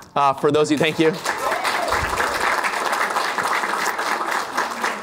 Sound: applause

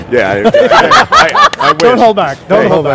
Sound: laughs

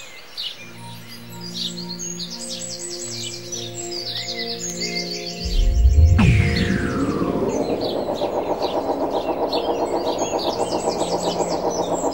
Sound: birds, music

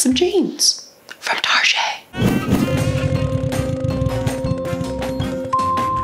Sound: whispering

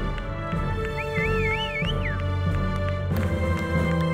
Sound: audience applauding; audience whistling

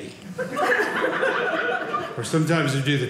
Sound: audience laughing

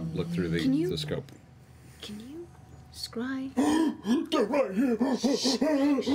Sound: gasping; laughter

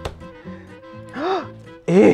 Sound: gasps

